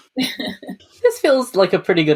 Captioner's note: laughs